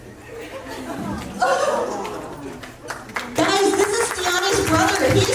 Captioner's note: gasps and clapping